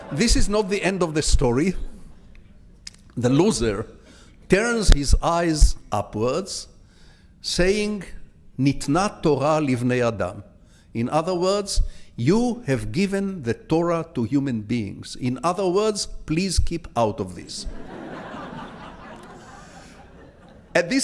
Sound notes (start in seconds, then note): 7.7 speaking in foreign language; 17.6 audience laughs